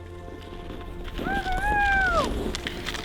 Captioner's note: cheers